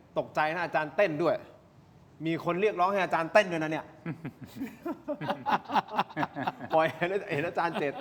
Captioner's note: laughs